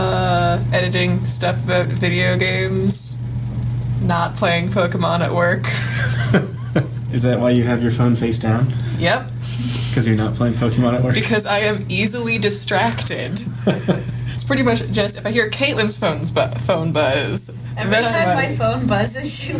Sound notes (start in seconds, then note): 5.7 chuckles; 9.0 giggles nervously; 13.2 laughs